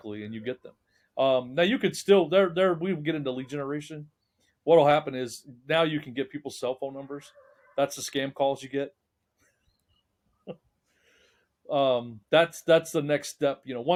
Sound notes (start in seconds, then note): 9.5 laughing